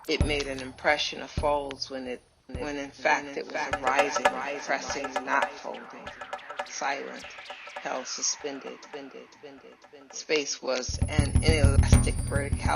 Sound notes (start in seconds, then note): 3.7 echoes; 9.5 echoes